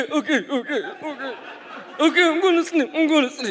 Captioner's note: audience laughs